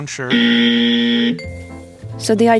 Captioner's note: wrong buzzer noise